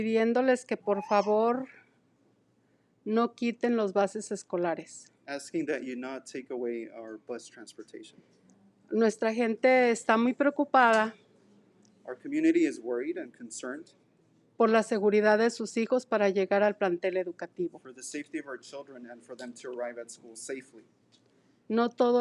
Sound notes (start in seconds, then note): 0.2 speaking in foreign language; 9.2 speaking in foreign language; 15.0 speaking in foreign language; 22.0 speaking in foreign language